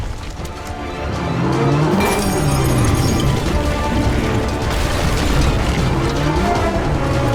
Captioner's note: dramatic music; Kong roars